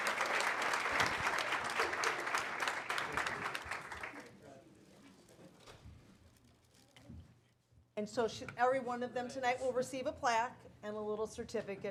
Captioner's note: applause